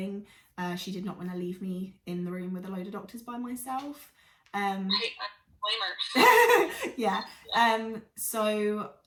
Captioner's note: laughs